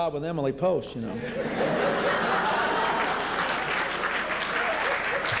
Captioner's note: laughter